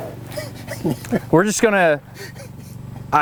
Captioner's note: laughs